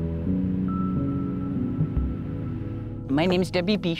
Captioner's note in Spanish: música tranquila; pájaro cantando